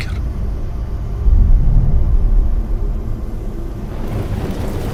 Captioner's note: dramatic sound